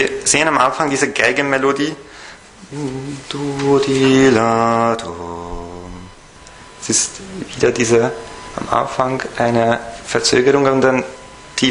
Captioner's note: hums